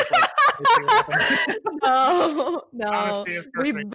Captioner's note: laughing